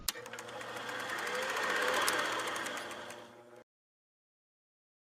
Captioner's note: movie projector spooling